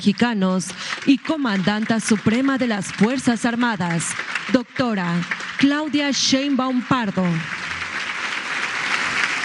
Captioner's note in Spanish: aplausos